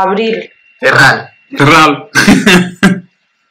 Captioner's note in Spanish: David y Néstor ríen; ríen tontamente